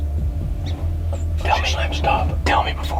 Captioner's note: whispering